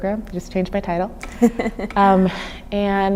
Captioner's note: laughing